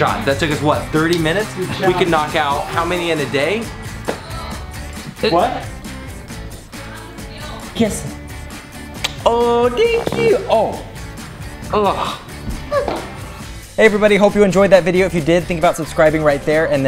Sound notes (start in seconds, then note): 10.4 baby farts